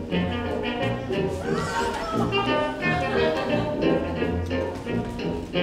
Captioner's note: Katharina cries out